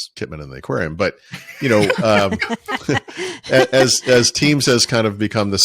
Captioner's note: all laughing